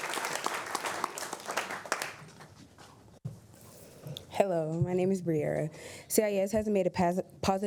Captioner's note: applause